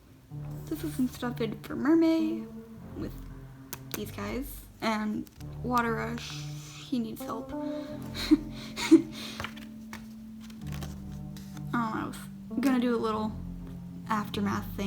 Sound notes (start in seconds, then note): 7.8 laughing